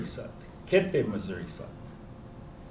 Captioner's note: non-english